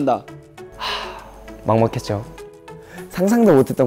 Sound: big sigh

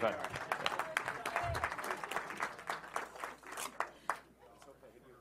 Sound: applause

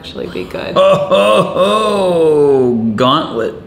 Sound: laughs

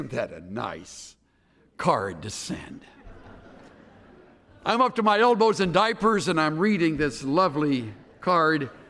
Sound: laughter

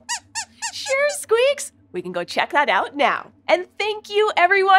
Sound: squeaks squeaks

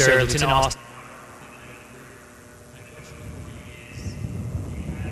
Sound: microphone cuts out

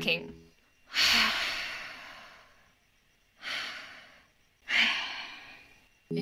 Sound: sighing

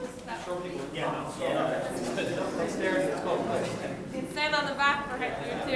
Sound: people chattering loudly

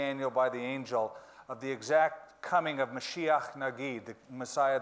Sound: speaking in foreign language

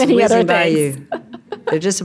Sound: laughing

